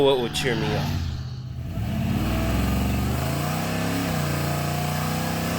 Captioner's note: car engine revving